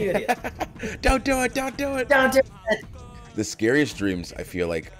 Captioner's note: laugh